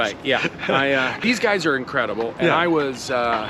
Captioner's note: laughs